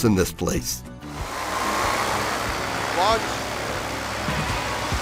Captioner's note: propeller whirs; exciting music